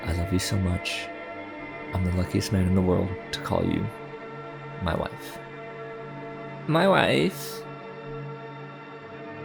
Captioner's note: borat voice